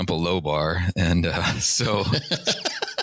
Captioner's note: laughter